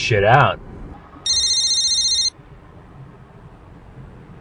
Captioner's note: phone ringing